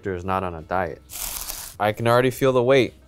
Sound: paper scraping

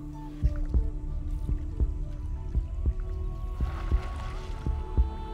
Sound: heartbeat

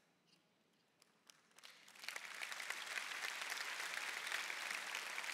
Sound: congregation clapping

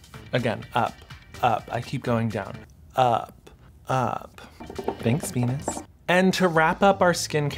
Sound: none

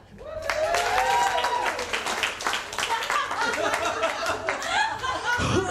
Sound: applause

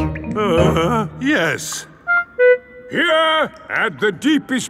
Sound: groans

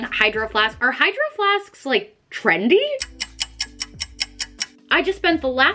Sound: clock ticking

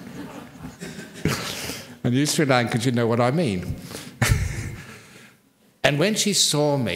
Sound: laughter

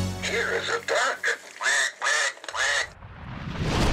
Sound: quacking sound effects

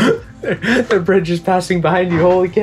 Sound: laughs

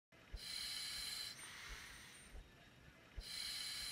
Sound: gas mask rasps

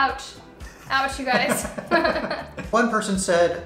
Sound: laughs

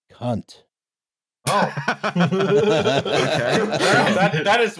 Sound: laughter

